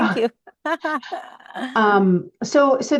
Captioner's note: laughs